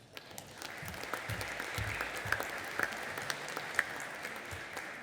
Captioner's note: audience applauding